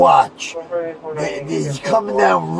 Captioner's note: radio chatter